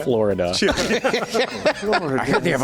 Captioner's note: laughs